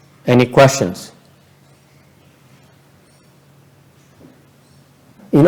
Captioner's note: silence